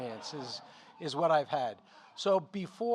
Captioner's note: audience laughing